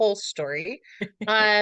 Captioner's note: laughs